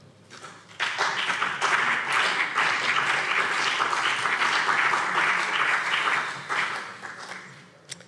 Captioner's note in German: Beifall BÜNDNIS 90/DIE GRÜNEN und CDU